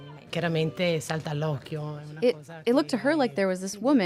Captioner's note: speaks in Italian